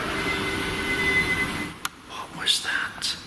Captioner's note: eerie wailing